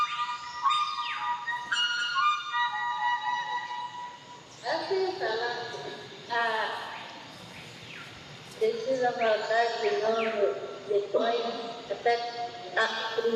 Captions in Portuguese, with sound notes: [Flauta tocando] [Voz gravada] Assim falar, Priscilla voltar de novo depois [Voz gravada] Assim falar, Priscilla voltar de novo depois